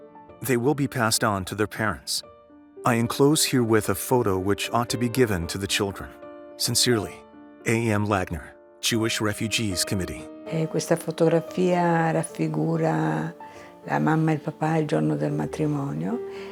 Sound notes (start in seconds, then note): 10.4 speaking in foreign language